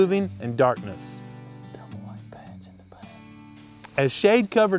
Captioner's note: whispering